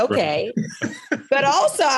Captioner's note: both laughing